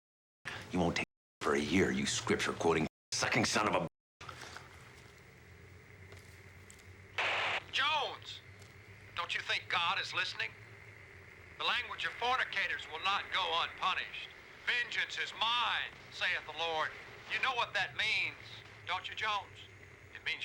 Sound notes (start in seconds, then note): 6.8 static